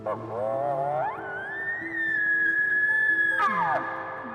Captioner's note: elk bugles